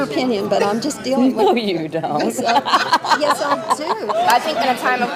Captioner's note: laughs